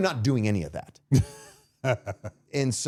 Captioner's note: laughing